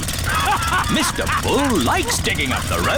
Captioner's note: all laughing